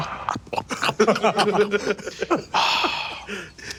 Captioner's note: munching